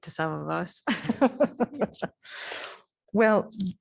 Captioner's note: laughter